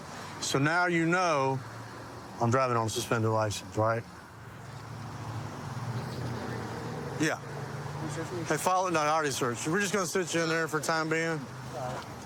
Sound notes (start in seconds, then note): none